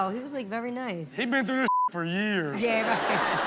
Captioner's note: beep; all laugh